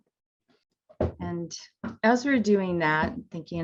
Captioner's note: footsteps plodding